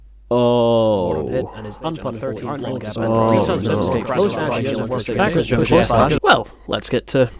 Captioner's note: increasing sounds of despair and overanalysis